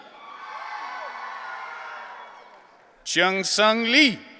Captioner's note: audience cheering